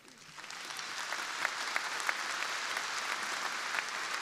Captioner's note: crowd applauding